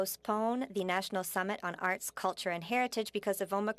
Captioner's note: speaking French